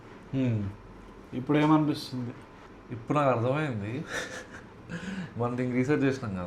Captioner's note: laughs